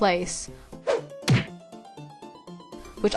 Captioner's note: fall sound effect